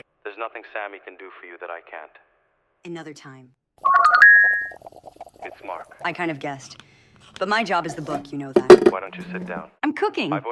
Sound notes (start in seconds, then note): 3.9 cellphone rings